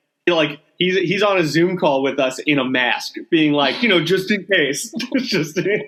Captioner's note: laughing